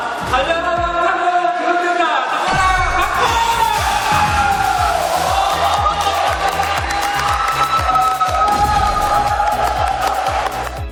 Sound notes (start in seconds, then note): 5.6 clapping